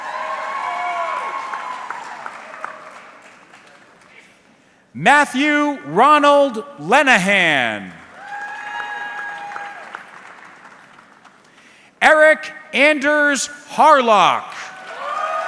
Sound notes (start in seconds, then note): 0.0 audience cheering; 8.0 audience clapping; 14.6 audience clapping